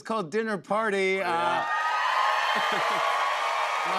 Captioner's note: cheers and applause